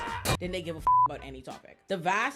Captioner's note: beep